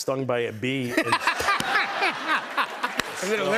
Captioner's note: laughter